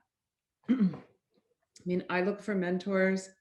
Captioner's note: clears throat